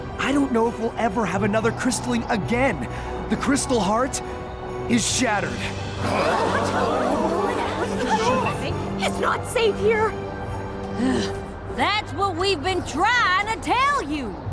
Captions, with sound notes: I don't know if we'll ever have another Crystalling again. The Crystal Heart is shattered. [worried murmurs] It's not safe here! That's what we've been trying to tell you!